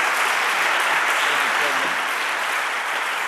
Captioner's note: audience clapping